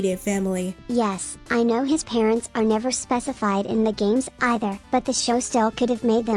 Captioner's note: robot voice